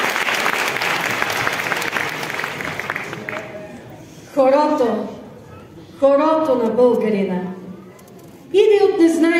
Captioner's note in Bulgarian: аплодисменти